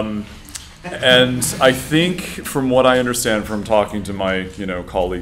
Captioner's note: laughter